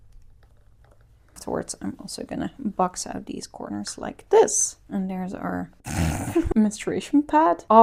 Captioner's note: laughs